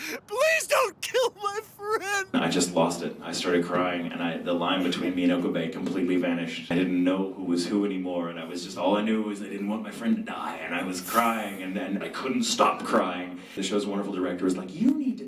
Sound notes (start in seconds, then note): 2.3 talking